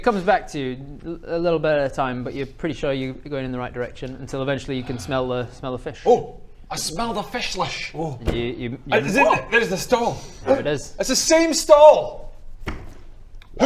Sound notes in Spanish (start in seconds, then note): none